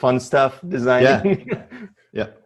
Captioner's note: laughs